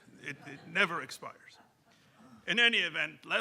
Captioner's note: audience laughing